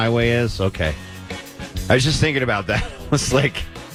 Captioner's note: laughing